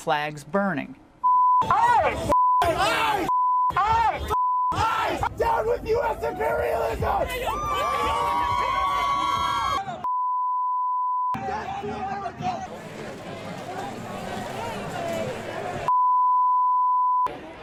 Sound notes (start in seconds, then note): 7.1 shouting